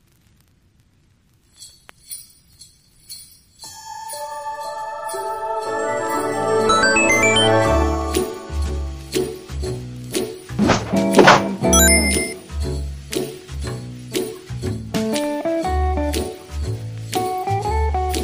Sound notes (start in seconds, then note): 6.4 christmas music playing; 6.6 One-Up sound